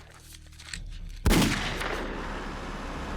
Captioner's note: gunshot